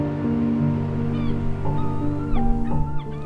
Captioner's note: seagulls calling